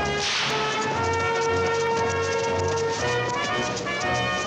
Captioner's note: whip cracks